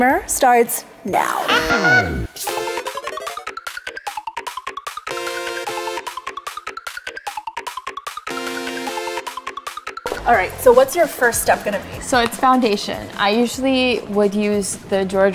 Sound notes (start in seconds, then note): 1.4 squeals; 2.5 intense bouncy music